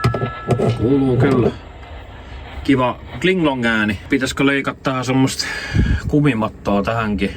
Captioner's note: Repeater idle beep